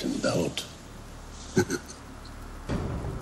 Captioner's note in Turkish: Gülüyor